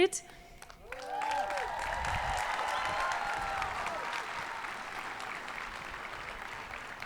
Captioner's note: hands clapping; people cheering